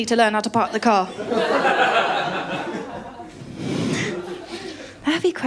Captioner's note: laughter